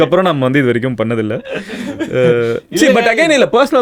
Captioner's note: group laughs